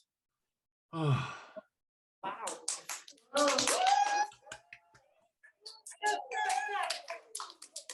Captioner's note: applause